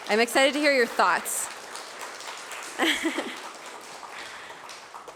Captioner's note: applause